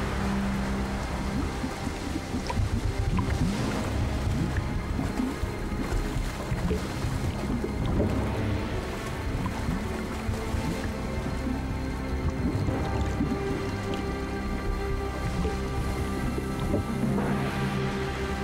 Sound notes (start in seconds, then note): 1.2 water burbling and gushing